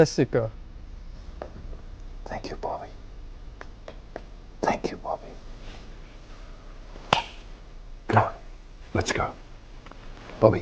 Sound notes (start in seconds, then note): 7.1 claps hands